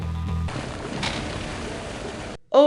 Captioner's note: splat